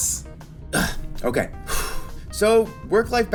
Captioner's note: sighs